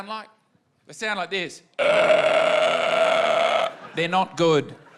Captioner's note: croaks